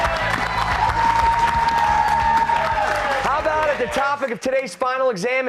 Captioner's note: cheers and applause